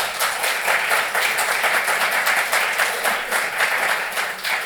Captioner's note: applause